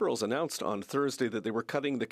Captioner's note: speaking French